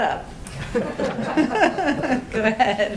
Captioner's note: laughter